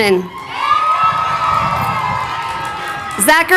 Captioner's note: crowd cheering